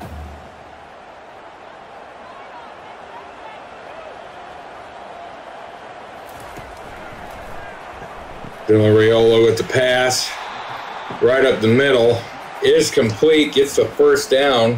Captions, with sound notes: (crowd cheering) Then Riolo at the pass, right up the middle, is complete, gets the first down,